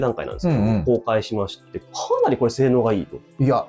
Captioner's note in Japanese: 咳払い